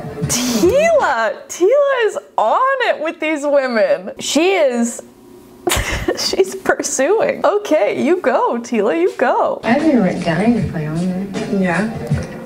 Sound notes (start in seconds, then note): 5.6 laughs